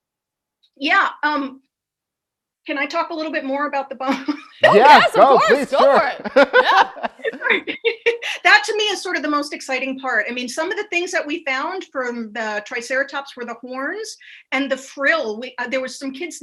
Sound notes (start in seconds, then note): 4.4 everyone laughs